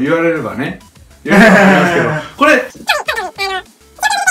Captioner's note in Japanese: 笑い声